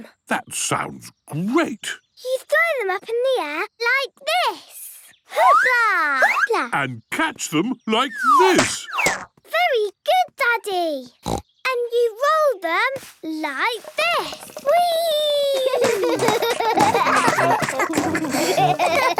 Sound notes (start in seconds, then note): 11.1 snorts; 15.4 both laugh